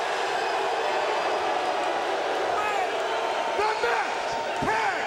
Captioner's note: crowd cheering